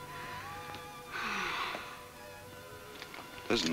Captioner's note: Ellen sighs